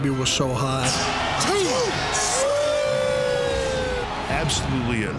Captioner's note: wrestlers cheer